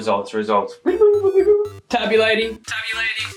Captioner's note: imitating robot noises